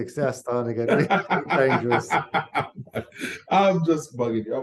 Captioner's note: laughs